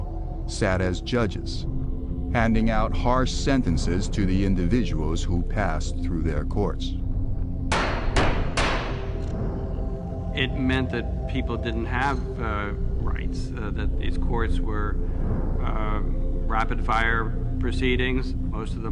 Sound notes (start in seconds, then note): 7.7 gavels slam